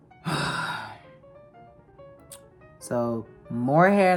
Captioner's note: sigh